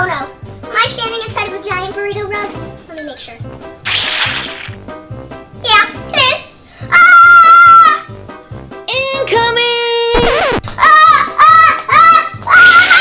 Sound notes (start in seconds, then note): 7.1 assistant yells